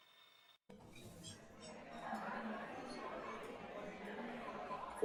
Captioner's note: restaurant noise